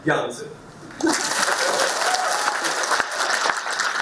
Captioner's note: applause